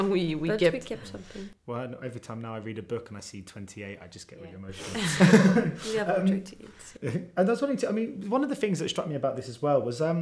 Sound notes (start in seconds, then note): 4.8 all laugh